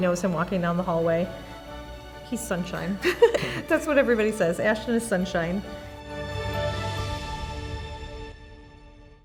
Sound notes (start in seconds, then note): 3.0 laughs; 6.7 soft music